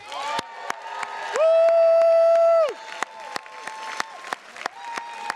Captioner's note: attendees cheers and claps